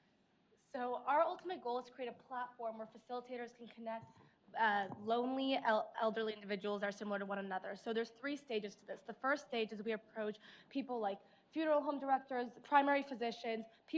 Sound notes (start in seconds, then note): none